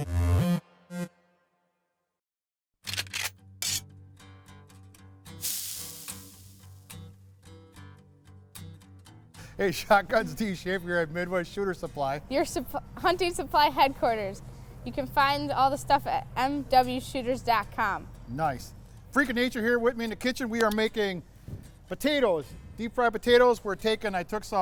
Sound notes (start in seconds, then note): 0.1 gun cocks; 5.3 sizzle